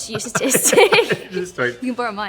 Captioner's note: laughs